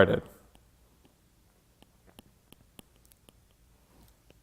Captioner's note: stylus tapping